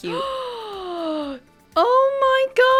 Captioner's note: gaaaaaaaasp